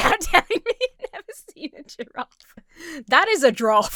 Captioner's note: Emma laughs